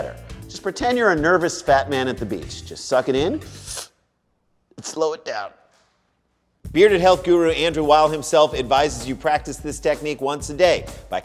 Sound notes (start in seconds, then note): 3.5 inhales